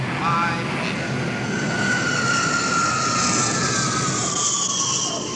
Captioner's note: engines whooshing